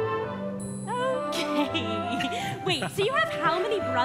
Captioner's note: laughs